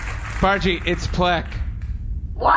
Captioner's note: audience applauds